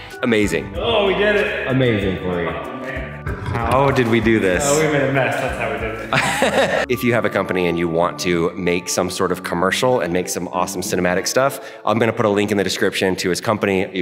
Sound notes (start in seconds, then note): 0.0 light music; 5.8 laughing